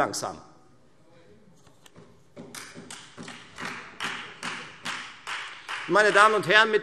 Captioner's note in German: Beifall Freie Demokraten